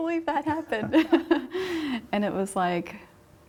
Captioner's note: both laugh